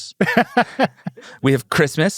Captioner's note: laughs